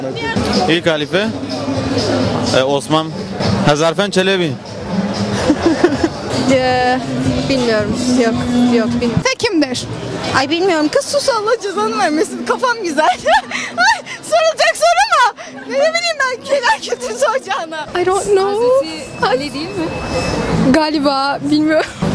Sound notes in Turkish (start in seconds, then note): 5.3 Gülüşme; 13.0 Gülme sesleri